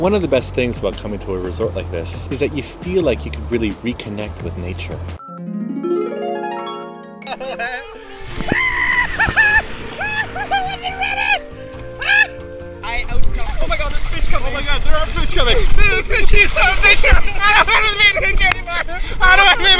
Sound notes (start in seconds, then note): 8.3 screaming laughter; 17.2 laughter